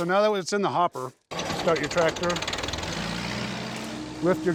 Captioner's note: engine starting